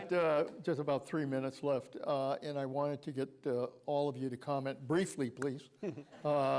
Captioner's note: laughter